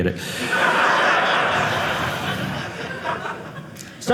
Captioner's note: audience laughing